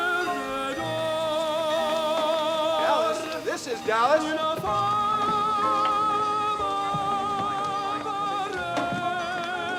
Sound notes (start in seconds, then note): 0.1 steam hissing; 1.1 bell dinging; 4.8 man singing in foreign language